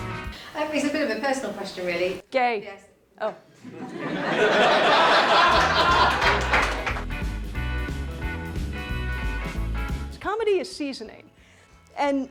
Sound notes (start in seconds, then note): 0.0 energetic music plays; 2.9 interrupting; 3.6 audience laughs; 7.7 energetic music